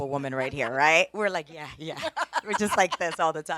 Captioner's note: laughing